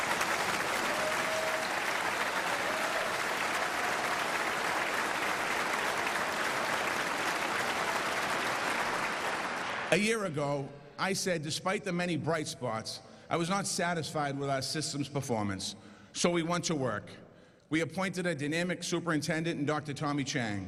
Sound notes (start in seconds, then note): 10.0 applause